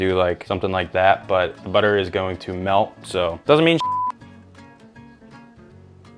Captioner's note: beep; light music